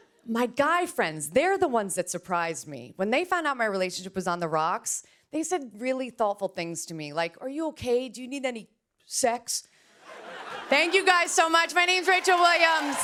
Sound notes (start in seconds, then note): 10.0 laughter; 12.8 cheers and applause